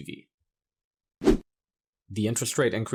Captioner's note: graphics whooshing